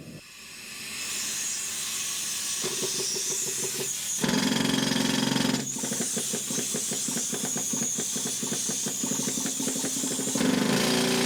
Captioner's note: sounds of Drilling